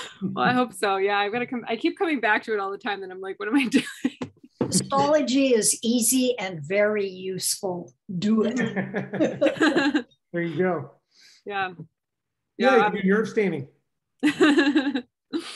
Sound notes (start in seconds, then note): 0.0 laughter; 3.7 laughter; 8.5 laughter